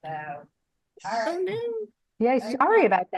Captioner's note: speaks faintly; speaking faintly